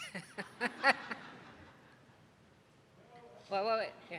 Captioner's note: lady laughing